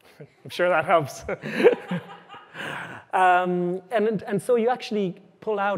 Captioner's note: laughter; chuckles